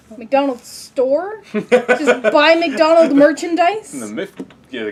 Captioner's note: laugh